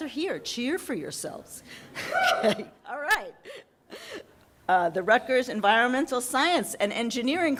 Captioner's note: audience member yelling